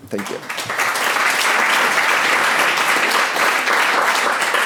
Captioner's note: clapping